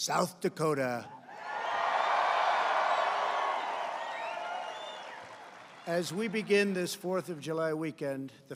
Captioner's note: applause